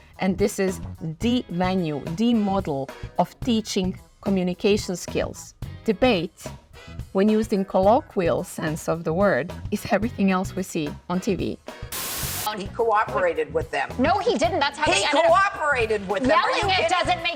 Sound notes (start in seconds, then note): 11.9 TV fuzz whooshes